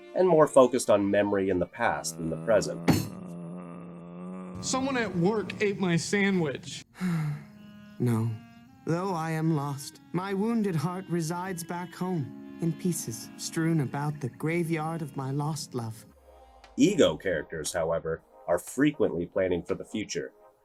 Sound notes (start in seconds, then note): 2.2 Tina Belcher groan; 7.0 sigh